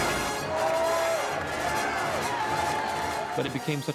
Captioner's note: crowd Cheering